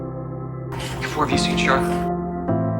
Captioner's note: voiceover